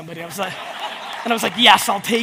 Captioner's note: audience laughs